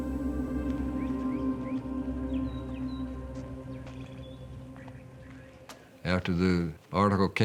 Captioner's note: birds twittering